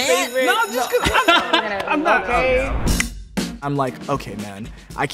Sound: bell ringing

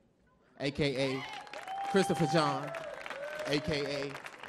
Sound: audience cheering; audience clapping

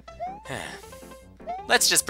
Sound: sigh

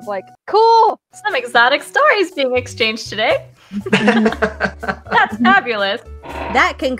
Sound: laughter

